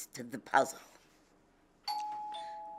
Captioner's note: doorbell rings